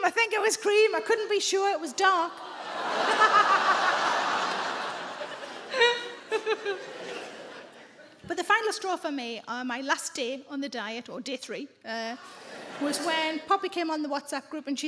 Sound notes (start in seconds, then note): 2.4 audience laughs; 2.4 Sarah laughs